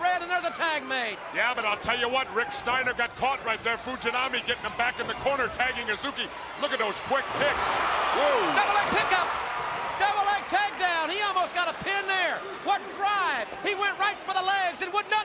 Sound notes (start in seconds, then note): 9.1 crowd cheering